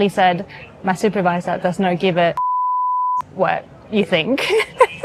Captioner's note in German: piep